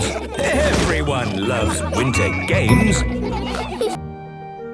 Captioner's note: laughter